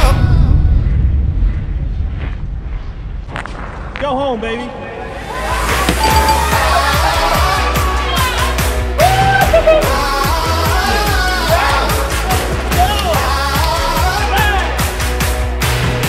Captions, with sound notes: Go home, baby. [CHIME DINGS] [CHEERING]